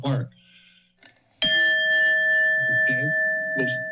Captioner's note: bell rings